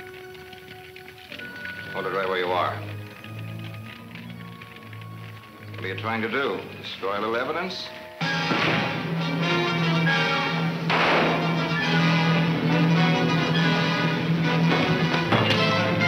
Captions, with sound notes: - Hold it right where you are. What are you trying to do destroy new evidence? (dramatic music) (gun fires)